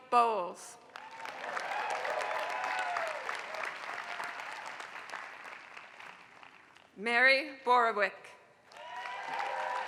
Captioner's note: applause; applause